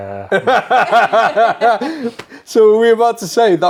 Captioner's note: laughs